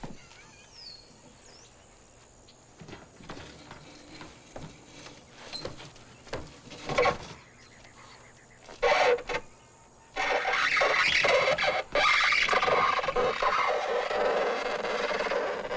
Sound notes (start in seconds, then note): 8.4 crate squeaks